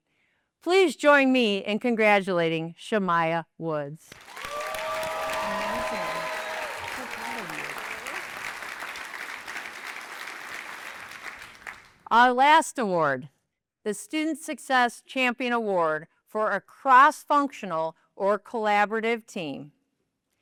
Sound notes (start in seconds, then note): 4.1 applause